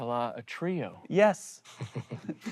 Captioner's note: group laughing